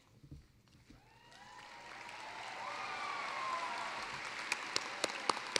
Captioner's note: cheering, applause